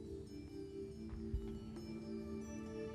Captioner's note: none